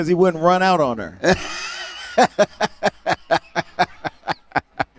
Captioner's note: laughter